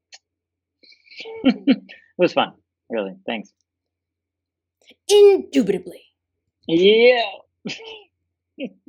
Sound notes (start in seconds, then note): 4.8 Collins voice